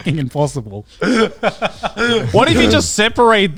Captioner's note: laughing